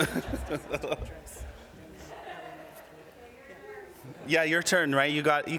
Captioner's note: laughter